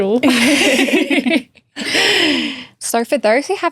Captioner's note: all laughing